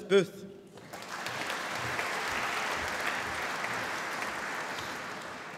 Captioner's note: applause